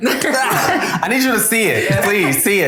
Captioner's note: everyone laughing